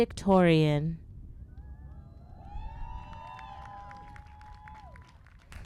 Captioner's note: applause